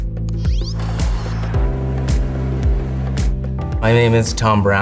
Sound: air whooshing

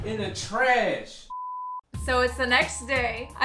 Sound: beeping

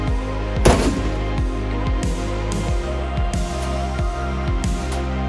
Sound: chill music continues; container banging

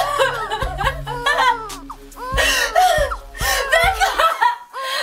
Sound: Mary cries

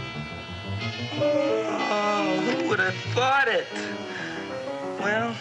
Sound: groans

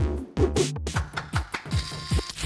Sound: whip cracks

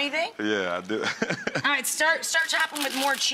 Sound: laughs

